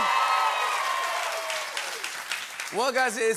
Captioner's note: cheering and applause